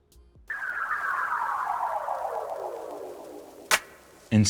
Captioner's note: electronic whistling; loud clapping